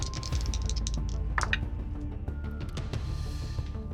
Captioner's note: rolls dice